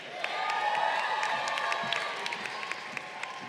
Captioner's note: crowd cheering